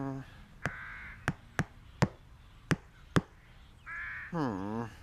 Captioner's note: tap! Tap! Tap! Tap! Tap! Tap!